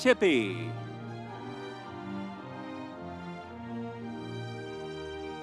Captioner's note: audience cheering